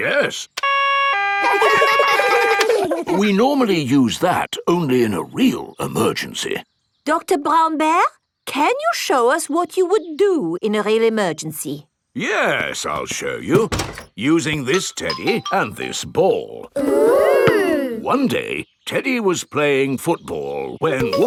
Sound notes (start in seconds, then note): 0.6 siren wailing; 0.7 siren stops; 1.3 kids laugh